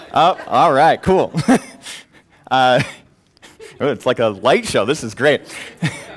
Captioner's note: laugh